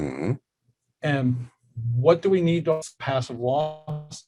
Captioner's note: murmurs